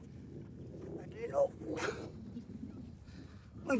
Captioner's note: speaking foreign language